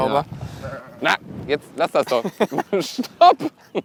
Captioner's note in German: lacht